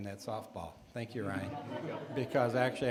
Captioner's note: audience laughing